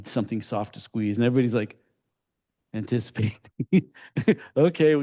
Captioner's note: laughs